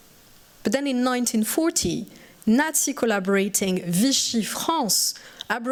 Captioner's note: french